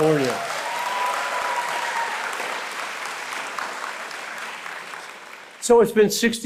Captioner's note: applause